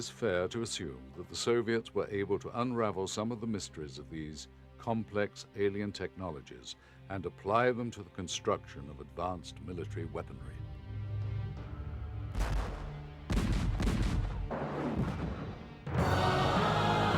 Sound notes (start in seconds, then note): 10.6 missiles launching; 14.1 dramatic music